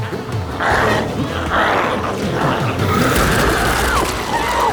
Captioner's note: glowzie growls; Chalee screaming